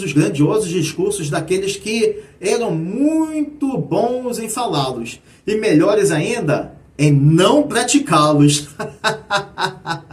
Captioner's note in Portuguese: risadas